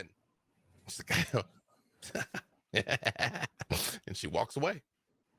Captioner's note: chuckles sinisterly